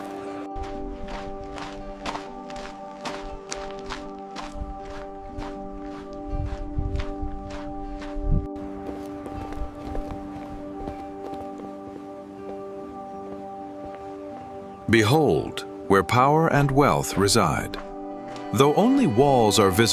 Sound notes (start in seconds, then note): 7.8 footsteps